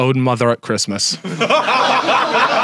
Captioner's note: Sidemen laugh; audience laughs